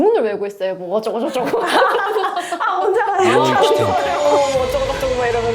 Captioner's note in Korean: 웃음